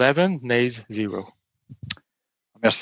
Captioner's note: speaking French